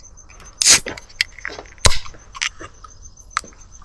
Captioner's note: opening the bottle for ASMR